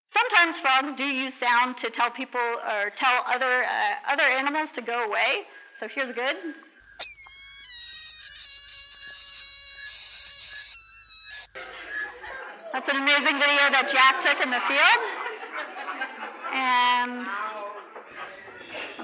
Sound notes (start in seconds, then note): 7.0 frog bleating; 13.8 laughter